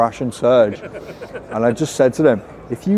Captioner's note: laughing